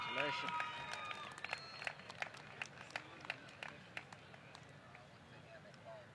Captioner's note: applause